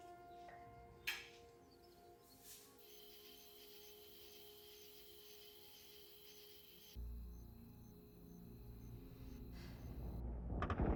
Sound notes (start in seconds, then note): 2.8 crickets chirping; 6.9 dramatic music